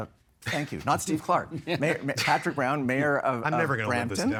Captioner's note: laughing